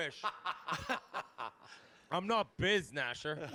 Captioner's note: laughing